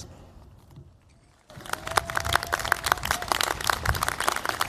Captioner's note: cheers, applause